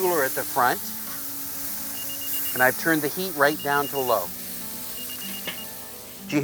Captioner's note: beeping